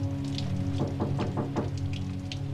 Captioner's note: knock On Door